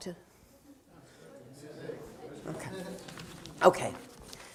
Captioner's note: audience talking